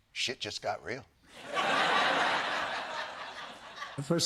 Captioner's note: laughter